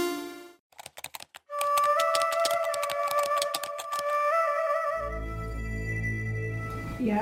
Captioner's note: keys typing; eerie music